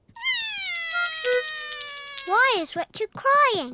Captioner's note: cries